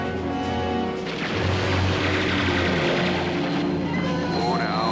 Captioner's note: machine Gun Fire